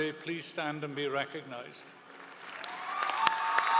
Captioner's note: applause